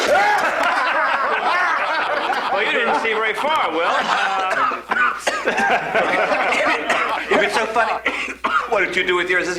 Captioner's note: La risa